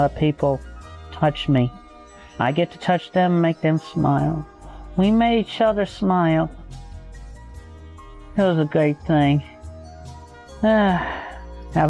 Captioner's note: sigh